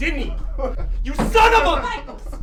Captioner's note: Cameron weeping